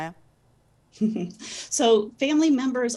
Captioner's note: chuckles